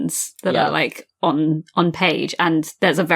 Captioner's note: laughs